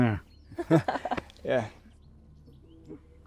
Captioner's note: girl laughs